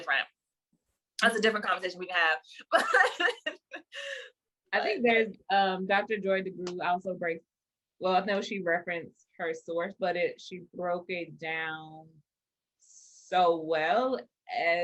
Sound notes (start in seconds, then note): 2.8 laughs